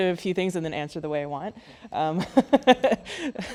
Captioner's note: laughs